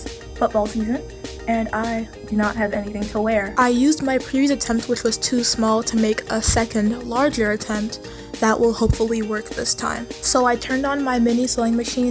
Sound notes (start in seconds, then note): none